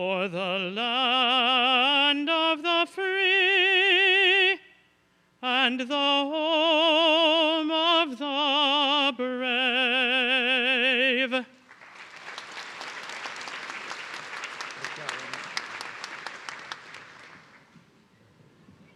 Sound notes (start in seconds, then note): 11.6 everyone clapping